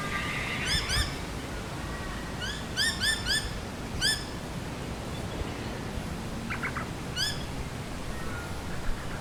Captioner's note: wind car noisy miners cockatoo; various birds